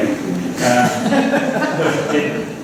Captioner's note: laughter